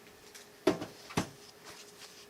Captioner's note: clunk